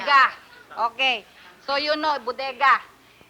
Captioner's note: speaking Spanish; speaking English